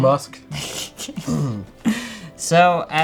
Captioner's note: laughs